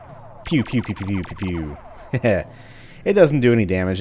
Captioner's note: rapid-fire pew pew; audibly says pew pew several times like a derp; chuckles